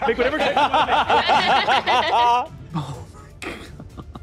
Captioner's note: players laughing